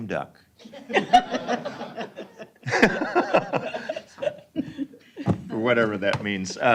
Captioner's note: laughter